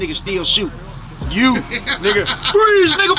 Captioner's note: laughing